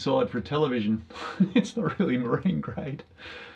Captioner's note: laughs